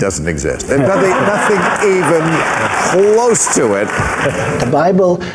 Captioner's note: audience Laughter